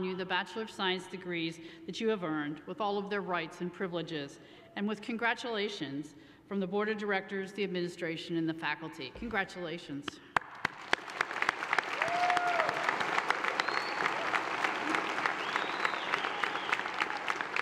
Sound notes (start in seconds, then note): 10.4 audience applauds and cheers